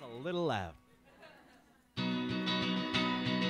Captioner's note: audience laughs; guitar music